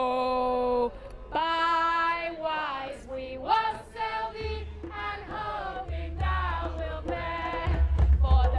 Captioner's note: crowd